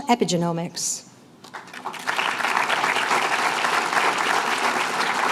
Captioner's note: applause